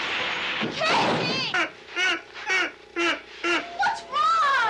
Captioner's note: Casey laughing